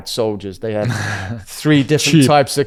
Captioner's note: laughs